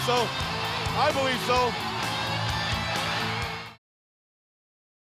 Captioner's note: crowd cheering